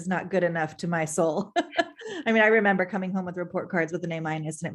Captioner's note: laughter